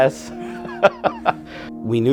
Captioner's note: both laughing